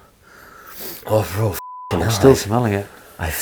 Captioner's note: sighing